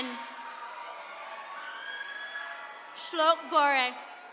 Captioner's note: attendees cheering